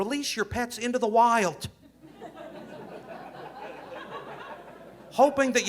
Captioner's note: audience laughing